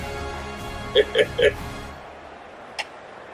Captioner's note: laughs